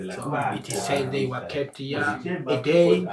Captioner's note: chatter in background